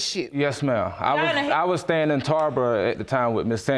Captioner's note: none